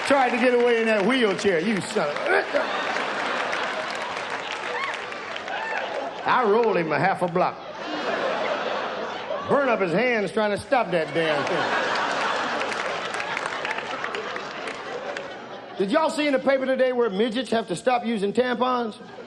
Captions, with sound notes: Tried to get away in that wheelchair, you son of a--! I rolled him a half a block. Burnt up his hands trying to stop that damn thing. (audience laughs) Did y'all see in the paper today where midgets have to stop using tampons?